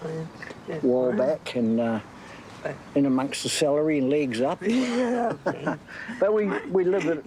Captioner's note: laughs